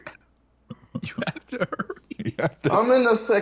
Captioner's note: laughing